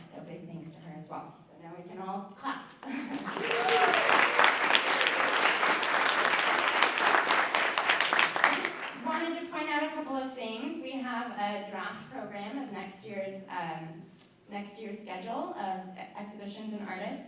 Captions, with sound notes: So big thanks to her as well. So now we can all clap. (audience applauding) I just wanted to point out a couple of things. We have a draft program of next year's schedule of exhibitions and artists.